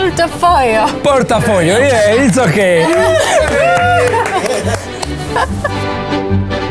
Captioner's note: cheers